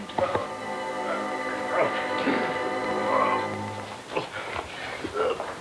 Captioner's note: groaning